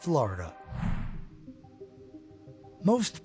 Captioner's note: air whooshing